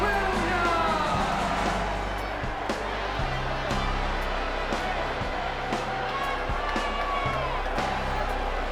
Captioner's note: crowd cheering